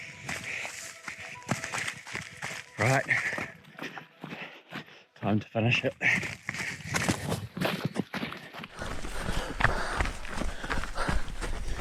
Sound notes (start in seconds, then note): 0.0 footsteps crunching; 0.3 panting; 6.0 footsteps running; 6.3 panting